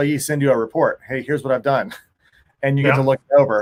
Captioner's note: chuckles